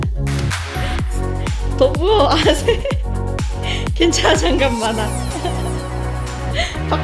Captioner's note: laugh